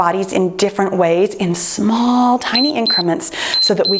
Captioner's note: timer beeps